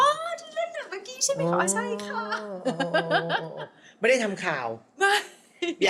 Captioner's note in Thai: เสียงหัวเราะ